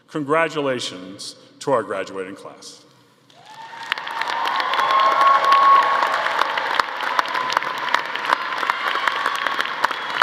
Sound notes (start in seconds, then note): 3.3 audience applauding; 3.4 audience cheering